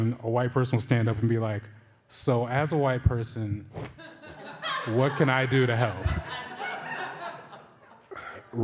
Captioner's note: laughter